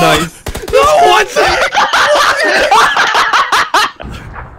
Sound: laughing

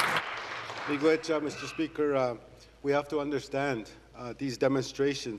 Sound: applause

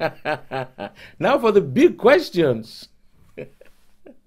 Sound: laughing

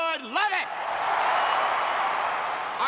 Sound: cheers and applause

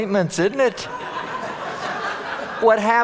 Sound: audience laughing

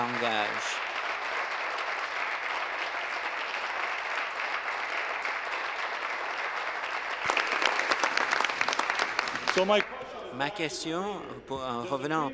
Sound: applause

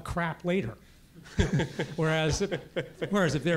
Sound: laugh

